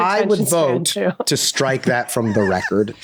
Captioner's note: Glenn laughing